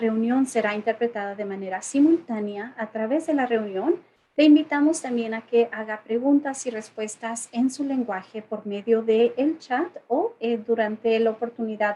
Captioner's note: spanish